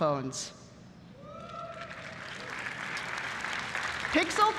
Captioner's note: applause